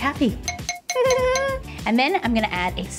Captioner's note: laughing